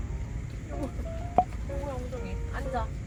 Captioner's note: butt pats